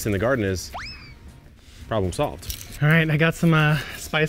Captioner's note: air whooshing